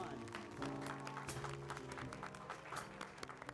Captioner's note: applause